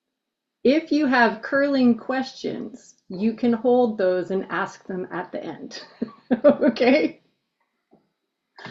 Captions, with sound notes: If you have curling questions, you can hold those and ask them at the end (laughs), okay?